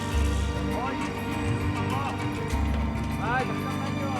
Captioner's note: chattering Continues